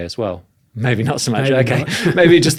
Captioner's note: chuckles